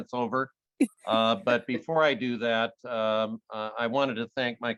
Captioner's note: laughing